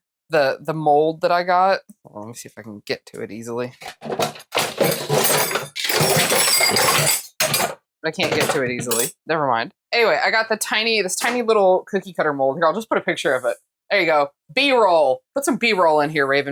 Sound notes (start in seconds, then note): 4.5 banging around in the kitchen